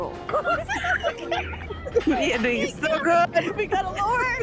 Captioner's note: laughing